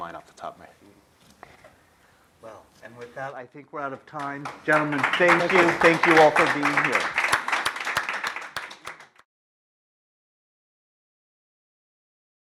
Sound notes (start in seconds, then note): 4.0 applause